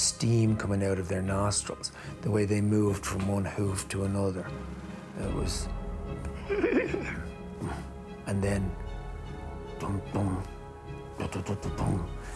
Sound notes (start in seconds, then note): 6.4 neighs